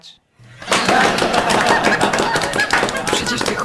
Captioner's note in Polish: śmiech i owacje